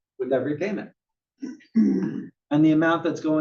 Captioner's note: cough